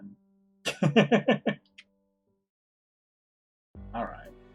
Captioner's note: laughs